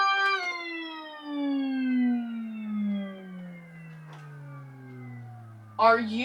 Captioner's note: pitch slowly bends down and continues to descend for several seconds